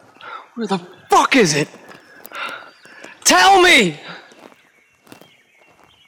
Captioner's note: sighs